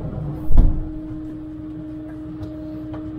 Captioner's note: engine noise